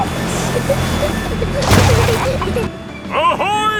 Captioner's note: peppa and george giggling